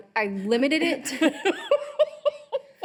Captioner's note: laughing